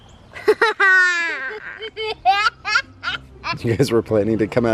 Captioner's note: laughter